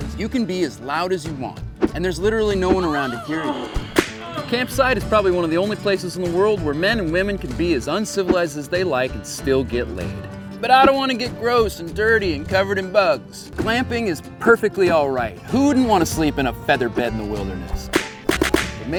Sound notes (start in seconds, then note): 3.8 loud moaning and whip cracking; 17.9 whip cracking multiple times